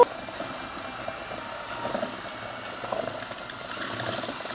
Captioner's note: drill whirling